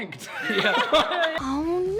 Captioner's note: group laughs